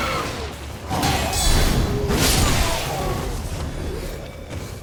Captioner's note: enemies shrieking; zombies growling